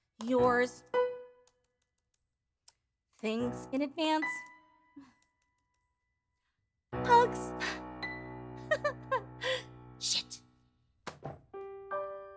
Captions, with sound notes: Yours, Thanks in advance. Hugs. (Giggling) Shit.